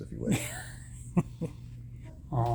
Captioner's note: laughs